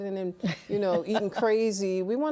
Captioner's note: laughs